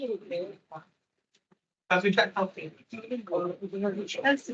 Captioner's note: attendees chattering